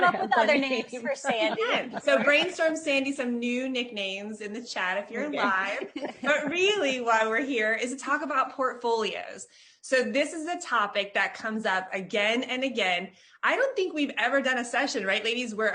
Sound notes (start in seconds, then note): 5.3 chuckling